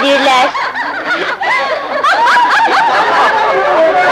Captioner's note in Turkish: Kahkahalar devam ediyor